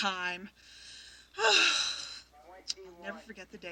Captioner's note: sighs